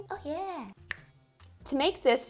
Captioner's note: finger snapping